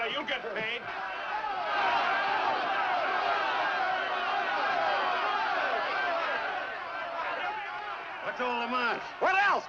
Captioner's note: men shouting